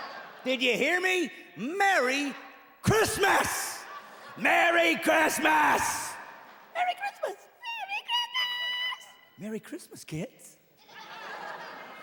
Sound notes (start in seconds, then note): 4.0 in different pitched voices; 10.8 kids giggling